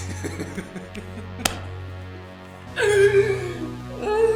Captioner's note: laughter